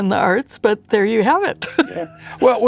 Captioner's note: laughs